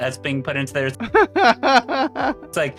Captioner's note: laughing